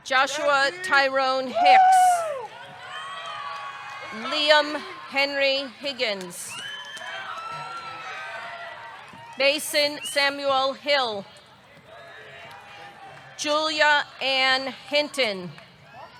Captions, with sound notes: Joshua Tyrone Hicks. (audience cheering) (audience clapping) Liam Henry Higgins. (audience cheering) (audience clapping) Mason Samuel Hill. Julia Ann Hinton.